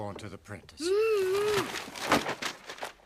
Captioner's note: moans